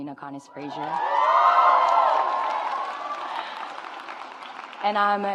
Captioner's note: audience applauds